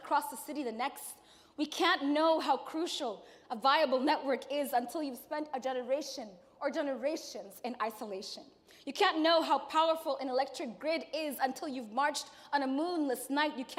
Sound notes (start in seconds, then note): none